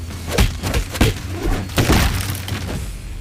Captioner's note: thudding; clattering